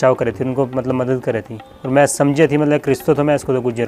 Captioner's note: continued Gujjari speech